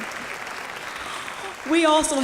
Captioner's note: applause